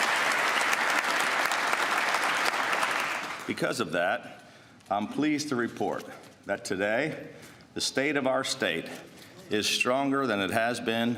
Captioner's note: applause